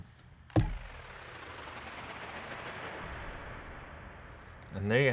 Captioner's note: electronic whirring